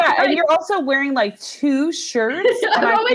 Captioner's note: all laughing